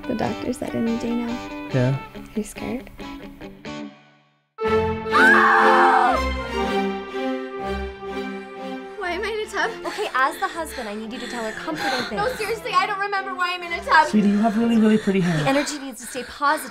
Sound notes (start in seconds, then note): 4.8 yelling